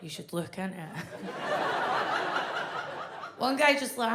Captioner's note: audience laughs